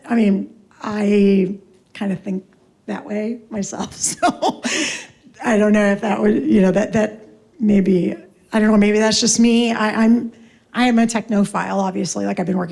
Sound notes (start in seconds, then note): 3.9 laughs